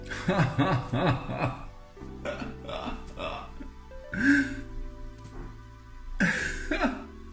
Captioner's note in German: Lachen